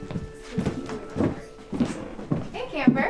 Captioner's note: counselors faintly chattering